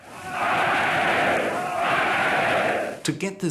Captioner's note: chanting "Heil"